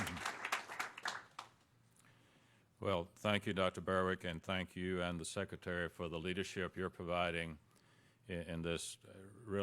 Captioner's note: applause